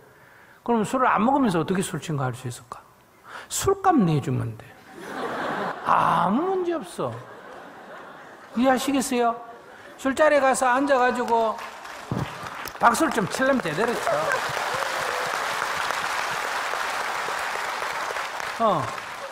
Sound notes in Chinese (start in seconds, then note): 4.9 听众笑; 10.9 听众 稀稀拉拉的掌声; 16.1 听众 热烈鼓掌